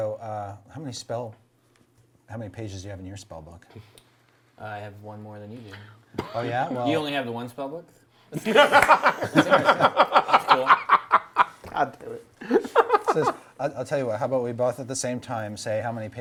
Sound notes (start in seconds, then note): 8.4 laughing